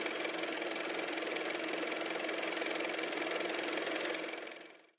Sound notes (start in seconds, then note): 0.9 car motor